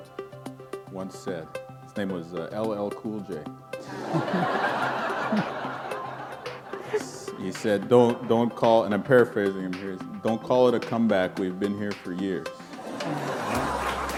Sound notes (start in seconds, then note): 5.8 laughter; 12.7 laughter